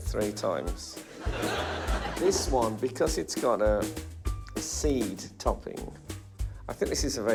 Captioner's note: laughter